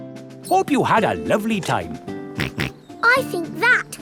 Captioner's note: snorts